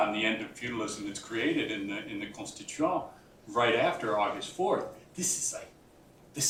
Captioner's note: french